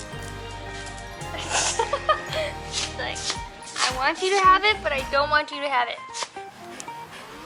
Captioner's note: laughter